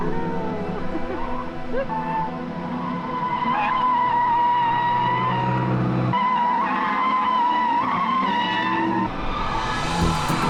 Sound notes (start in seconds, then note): 1.4 engine revving; 9.5 upbeat music